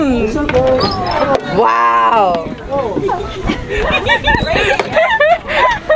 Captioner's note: audience laughing